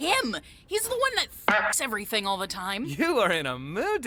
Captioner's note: boinks!